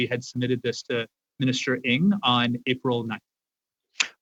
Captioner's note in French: voix de l'interprète